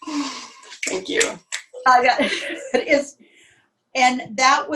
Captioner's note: laughter